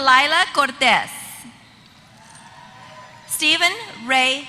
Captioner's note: applause